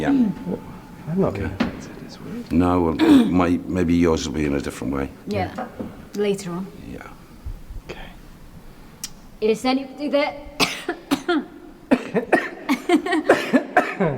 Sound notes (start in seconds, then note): 11.8 both coughing